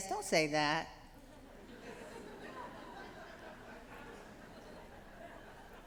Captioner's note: laughter